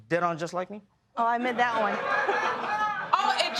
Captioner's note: laughter